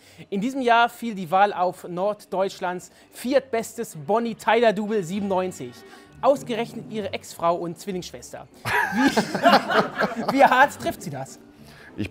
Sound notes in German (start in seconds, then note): 8.6 Lachen